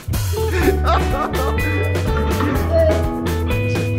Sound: joyful music begins; laughs

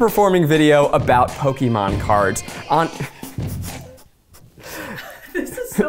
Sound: laughs

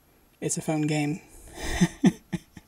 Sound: laughing

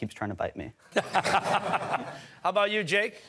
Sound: laughter

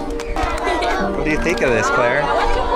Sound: giggling

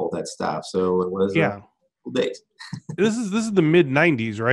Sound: laughs

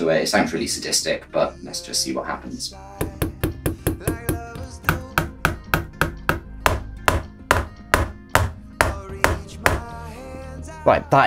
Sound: sound of hammering

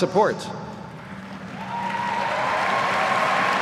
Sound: applause

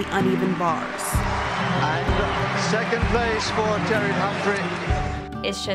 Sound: crowd cheering

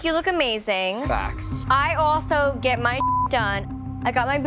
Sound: beeping

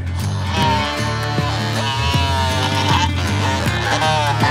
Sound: loud saw grinding

